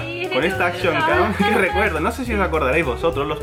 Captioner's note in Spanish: ríe